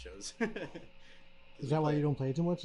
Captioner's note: laughs